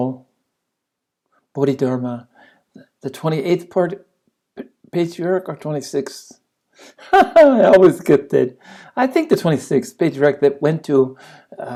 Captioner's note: laughs